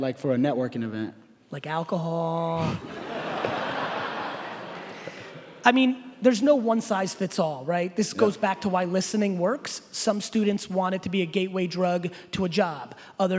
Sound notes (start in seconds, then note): 2.6 laughing